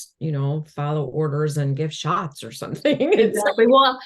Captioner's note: laughs